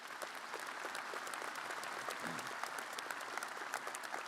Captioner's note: audience applauding